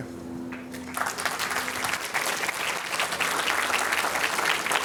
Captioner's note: audience applauds